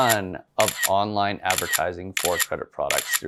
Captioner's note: camera shutter clicking